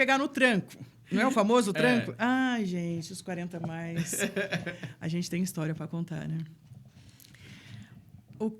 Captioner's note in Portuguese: risadas